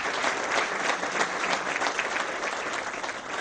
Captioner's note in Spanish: aplausos